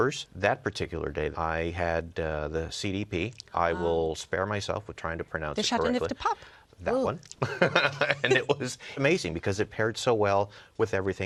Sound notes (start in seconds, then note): 7.4 laughs